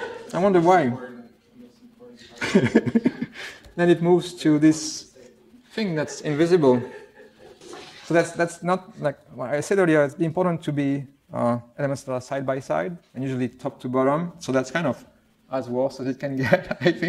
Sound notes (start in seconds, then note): 0.0 laughter; 5.9 laughter